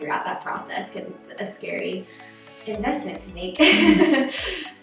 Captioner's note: laughs